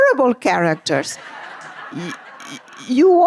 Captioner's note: laughter